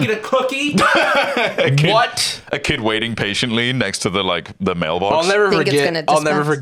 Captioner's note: laughs